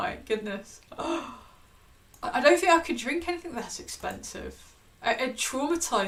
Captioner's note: gasps